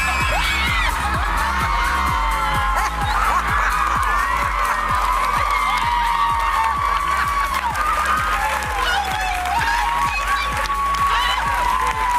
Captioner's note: cheers and applause